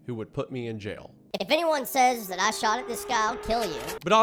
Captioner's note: high-pitched voice